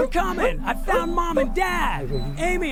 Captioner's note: Amy whimpering